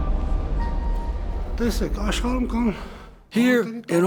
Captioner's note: voiceover